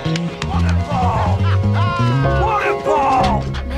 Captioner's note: man laughs